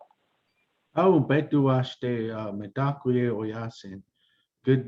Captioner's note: non-english speech